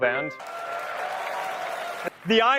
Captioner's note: loud Applause